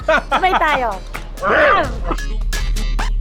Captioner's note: growls